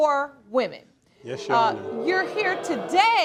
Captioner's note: crowd booing